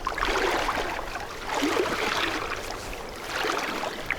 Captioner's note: water sounds